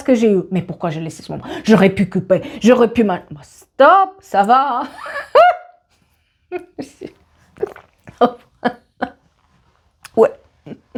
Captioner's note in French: rires